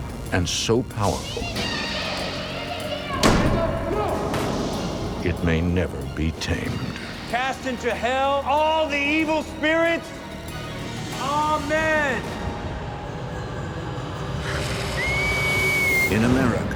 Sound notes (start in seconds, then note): 1.6 ghostly child's voice; 3.1 door slams; 13.7 eerie music; 15.4 girl screaming